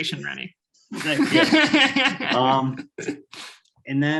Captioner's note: laughing